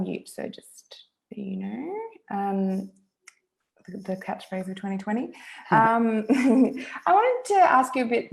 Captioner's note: chuckles